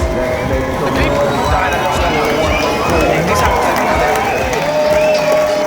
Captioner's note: MC announcement, crowd screaming and cheering